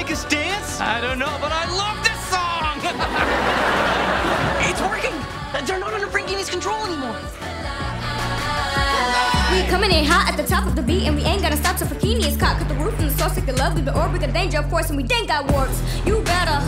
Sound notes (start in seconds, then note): 2.7 laughing